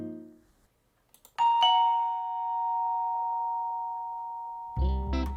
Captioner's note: doorbell rings